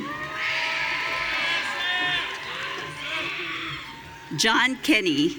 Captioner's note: audience cheering